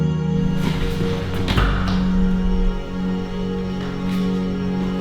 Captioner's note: feet shuffling